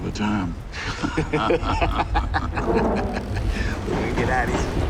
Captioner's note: laughter; thunderclap